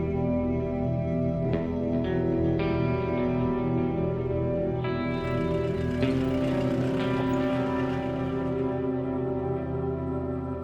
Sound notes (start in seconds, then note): 5.0 car engine sputtering